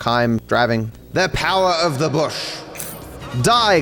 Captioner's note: voice echoes